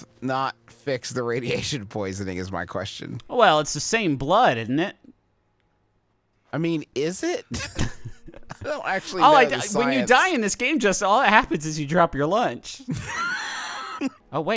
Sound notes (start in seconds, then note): 7.5 laughing; 12.8 laughing